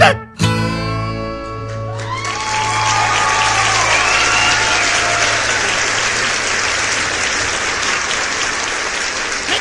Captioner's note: applause